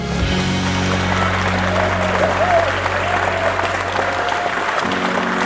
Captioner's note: crowd applauding